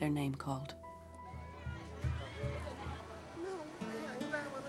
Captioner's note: foreign language